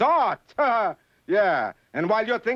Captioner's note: laughs